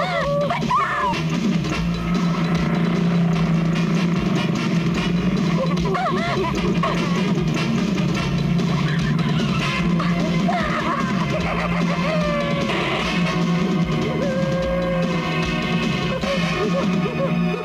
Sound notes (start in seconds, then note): 0.0 screams; 8.7 brakes squeal